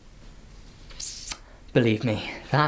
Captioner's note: sucks lip